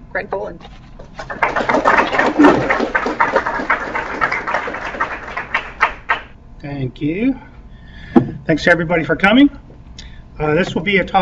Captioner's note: applause